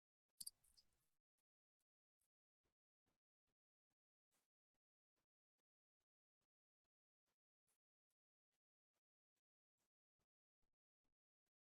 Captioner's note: pause 00:15:31